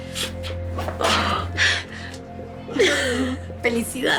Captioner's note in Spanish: Risas